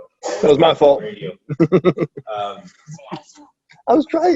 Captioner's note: laughs